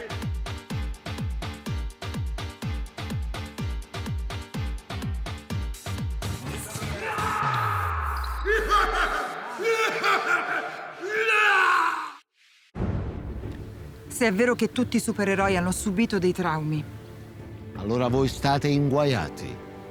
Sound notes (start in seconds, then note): 0.3 disco music continues; 6.5 satisfied shouts from players